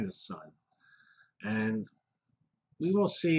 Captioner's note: pause